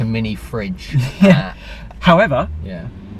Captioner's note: chuckles